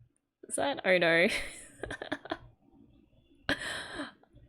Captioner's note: laughs